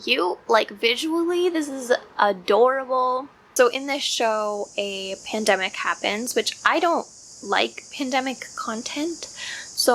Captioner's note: cicada sounds in background